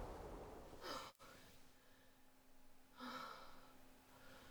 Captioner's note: Vanessa sighs